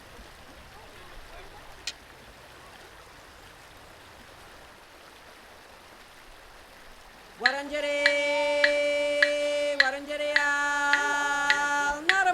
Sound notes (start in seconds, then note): 1.9 sticks clink together; 7.7 women singing in traditional language